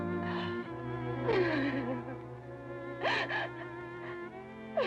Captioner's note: Sheila sobbing